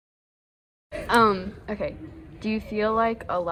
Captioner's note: high-pitched buzzing